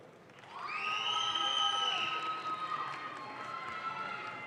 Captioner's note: audience claps